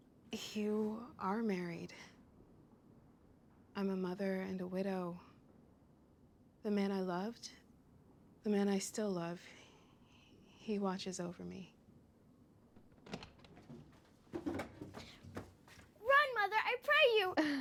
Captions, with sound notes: You are married. I'm a mother and a widow. The man I loved-- the man I still love, he watches over me. [DOOR OPENS] Run, Mother, I pray you!